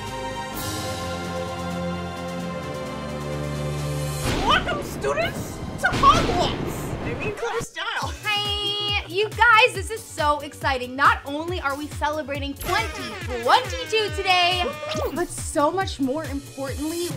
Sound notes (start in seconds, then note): 5.3 air whooshing